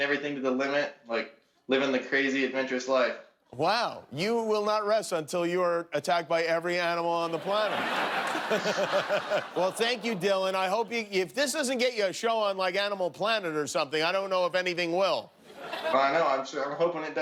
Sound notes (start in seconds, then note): 8.9 laughter